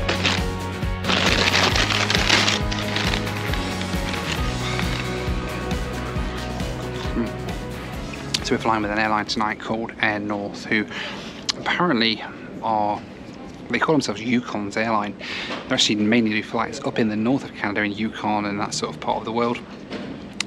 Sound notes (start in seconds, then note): 0.0 bag rustles